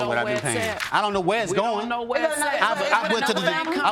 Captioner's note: women shouting over